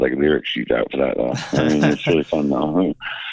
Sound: laughter

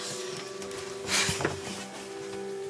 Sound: sighs

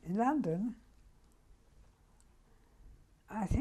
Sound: pauses for 3 seconds

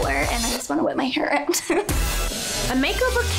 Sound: laughs

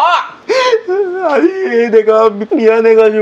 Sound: sobbing

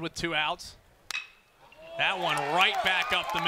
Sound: ball hitting bat

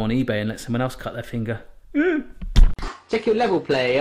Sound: yelps

